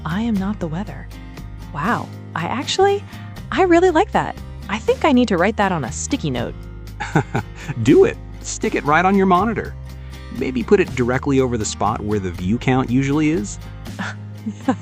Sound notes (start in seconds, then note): 7.0 laughs